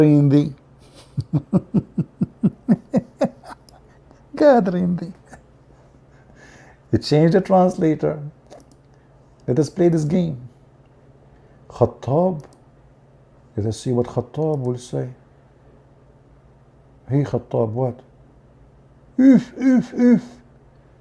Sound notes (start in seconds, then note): 0.9 Ketawa